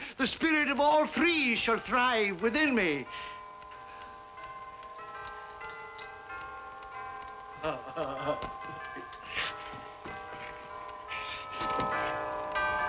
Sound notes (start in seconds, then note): 3.4 bells ringing; 7.6 Ebenezer laughing